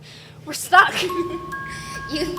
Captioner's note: Belladonna giggling